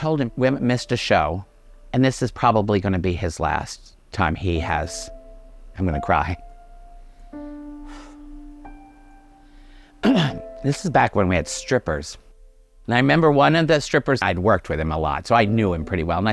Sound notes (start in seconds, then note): 7.8 exhaling